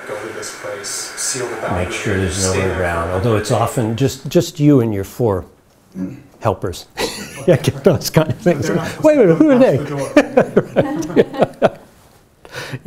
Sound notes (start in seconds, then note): 7.0 laughs; 12.3 chuckles